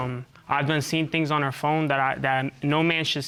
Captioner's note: stutters